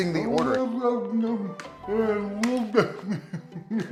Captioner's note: om nom nom